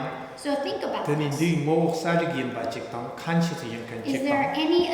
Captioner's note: speaking tibetan